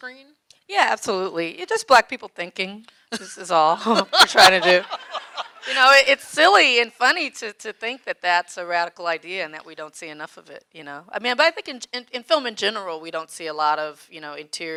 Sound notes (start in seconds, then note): 3.9 audience laughing